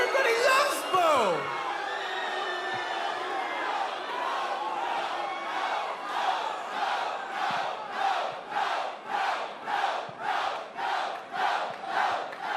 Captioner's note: crowd cheering